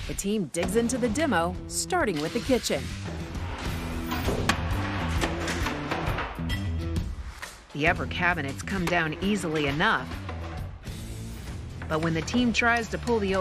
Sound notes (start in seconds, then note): 3.5 cabinets banging; 3.5 light rock music